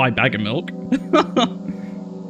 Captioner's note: laughs